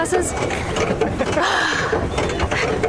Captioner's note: laughs